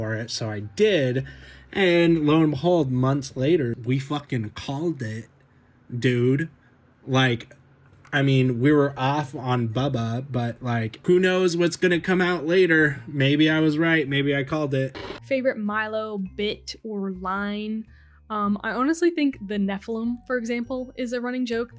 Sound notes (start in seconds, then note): 14.9 TV noise